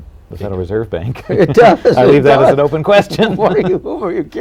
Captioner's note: laughter